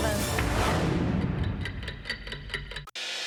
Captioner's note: clock ticking